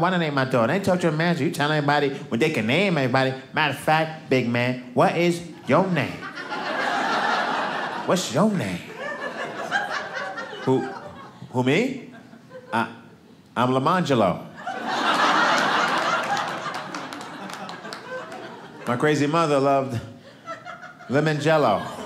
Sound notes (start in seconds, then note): 5.7 audience laughing; 14.6 audience laughing